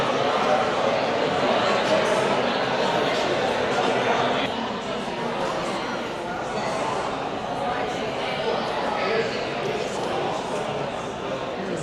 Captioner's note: crowd chatter